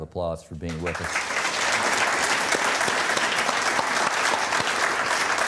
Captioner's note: exuberant applause